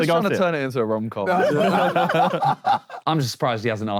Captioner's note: Sidemen laugh